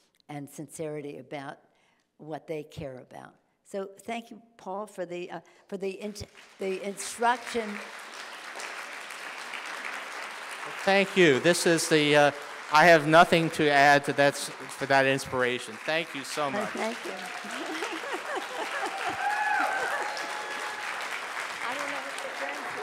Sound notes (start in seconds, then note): 7.8 audience applauding; 16.4 laughs; 19.5 audience applauding